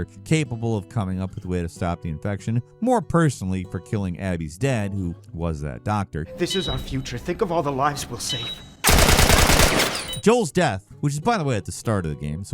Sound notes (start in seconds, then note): 8.8 gun blasting